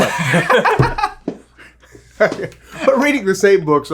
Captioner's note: laughing